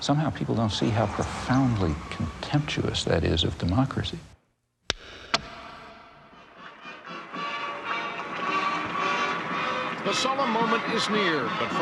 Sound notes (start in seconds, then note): 5.2 pencil snaps; 7.1 jubilant music